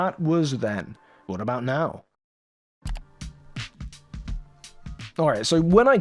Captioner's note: click